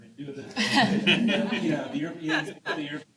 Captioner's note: chuckling